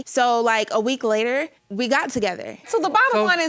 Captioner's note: none